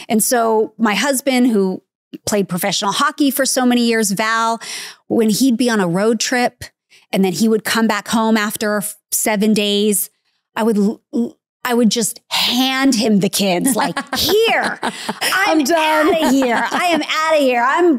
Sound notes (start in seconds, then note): 13.4 laughing